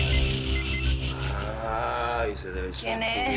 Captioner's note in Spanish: Suena el celular